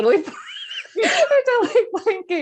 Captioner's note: laughing